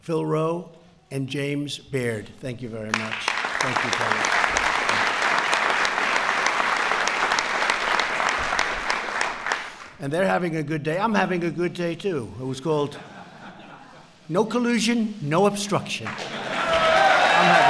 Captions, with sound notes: Phil Roe and James Baird. Thank you very much. Thank you, fellas. (applause) And they’re having a good day. I’m having a good day, too. (laughter) It was called, “No collusion. No obstruction.”